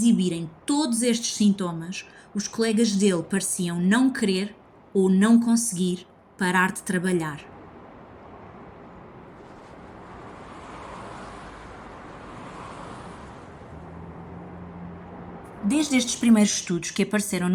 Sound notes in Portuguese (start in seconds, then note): 8.7 ruídos da cidade à noite